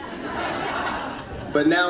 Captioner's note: audience laughing